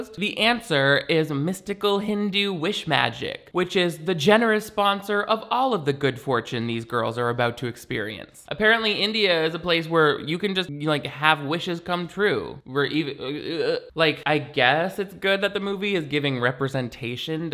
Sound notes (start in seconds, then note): 13.2 stammers